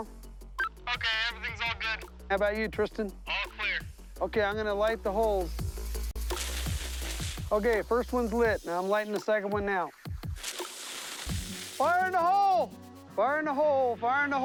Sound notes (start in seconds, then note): 4.3 walkie talkie; 6.1 fuse sizzling; 10.4 fuse sizzling